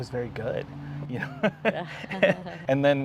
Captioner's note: laughs